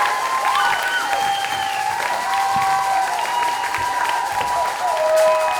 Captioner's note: whistles and continued cheers